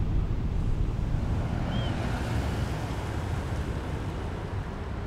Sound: traffic noises

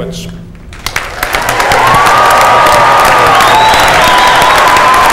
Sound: cheers and applause

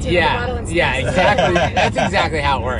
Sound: laughs

